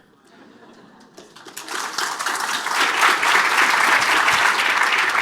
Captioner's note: applause